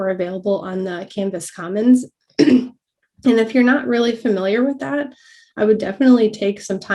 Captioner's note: cough